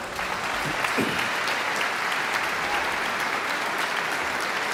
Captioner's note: audience clapping